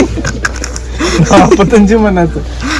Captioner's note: Everyone laughing